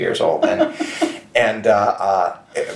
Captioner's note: chuckles